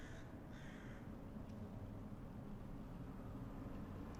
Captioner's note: bird call